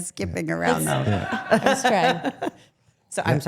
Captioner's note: people laughing